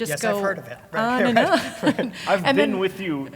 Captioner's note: laugh